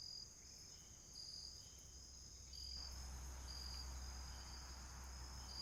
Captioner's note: insects chirping